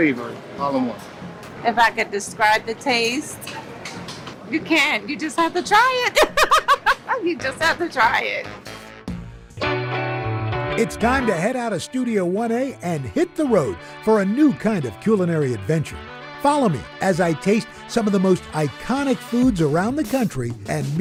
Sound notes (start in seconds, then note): 6.1 laughs